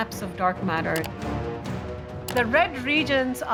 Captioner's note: computer mouse clicks